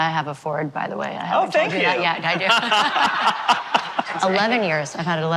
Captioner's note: laughter